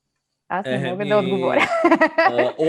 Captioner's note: laughs